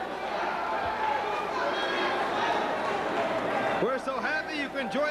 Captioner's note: crowd chatter